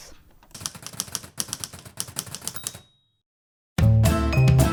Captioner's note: typewriter sounds